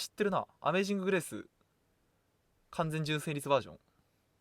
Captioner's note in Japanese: none